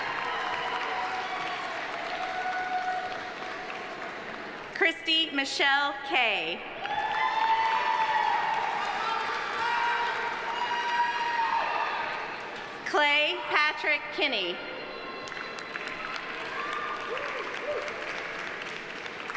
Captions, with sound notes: (audience applauding) (audience cheering) Kristy Michelle Kay. (audience applauding) (audience cheering) Clay Patrick Kinney. (audience applauding)